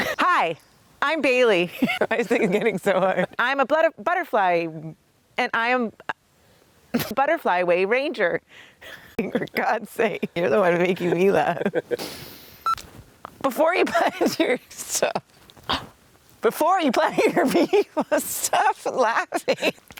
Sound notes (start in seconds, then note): 1.7 laughs; 14.7 laughs; 17.1 laughing; 17.1 laughs